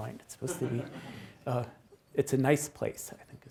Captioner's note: attendees laughs